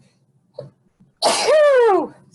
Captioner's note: sneezing